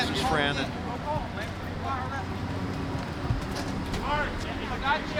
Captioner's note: people chattering